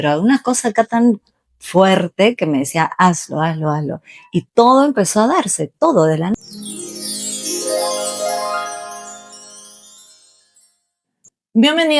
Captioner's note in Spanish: campana